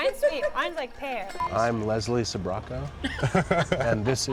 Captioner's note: laughter